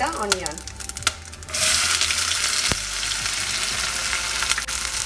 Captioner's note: onion sizzling